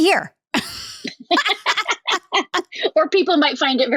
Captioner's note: laugh